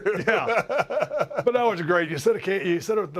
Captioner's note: laugh